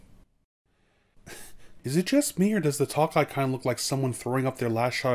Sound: chuckles

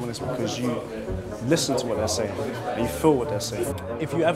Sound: murmuring

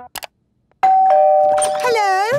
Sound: doorbell ringing

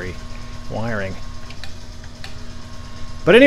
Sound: switch clicks off and on

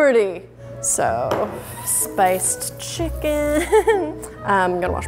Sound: laughs

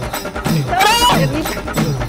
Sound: shouting

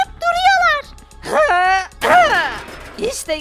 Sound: lock breaking sound

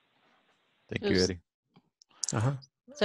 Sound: on phone

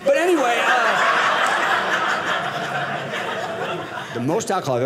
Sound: audience laughing

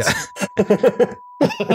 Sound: laughter

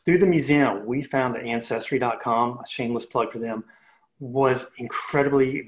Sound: murmurs

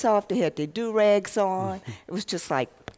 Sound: laughter

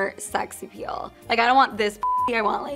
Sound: beeps

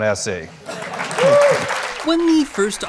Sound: audience applauds

